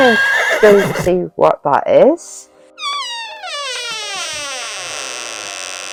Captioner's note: door creaks